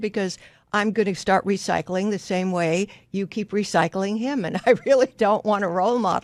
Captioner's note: laughs